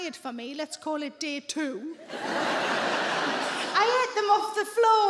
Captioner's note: audience laughing